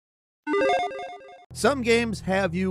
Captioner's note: game chimes